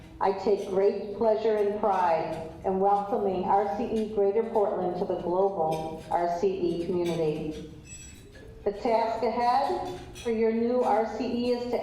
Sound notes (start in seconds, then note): none